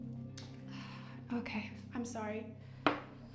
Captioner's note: sighing